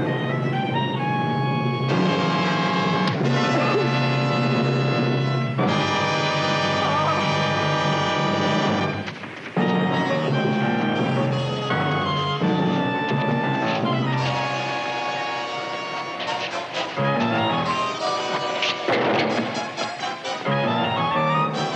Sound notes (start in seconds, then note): 0.1 suspenseful music; 2.2 dramatic music; 3.3 grunting; 3.3 thudding; 9.9 unsteady dramatic music; 18.2 clattering